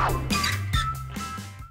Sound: whoosh; squeaking hinge

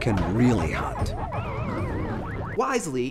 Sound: pac-man dying

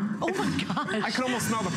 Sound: laughter

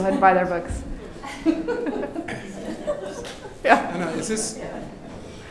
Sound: audience laughing

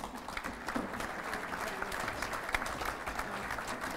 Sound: applause

